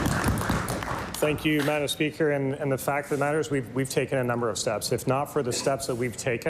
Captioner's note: applause